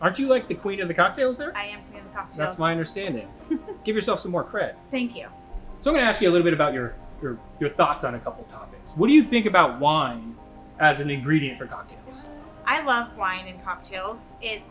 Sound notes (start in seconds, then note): 3.3 chuckles